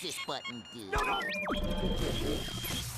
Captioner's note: beeping